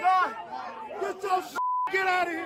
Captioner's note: beep